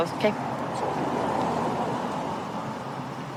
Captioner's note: vehicles driving